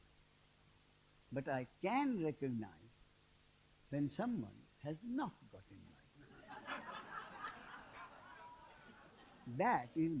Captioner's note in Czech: smích